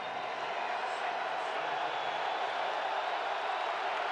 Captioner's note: cheering